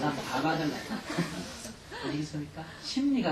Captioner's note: audience laughter